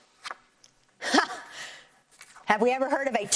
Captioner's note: scoffs